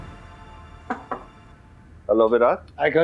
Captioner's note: knocking on the door